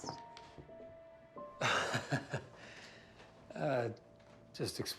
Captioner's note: chuckling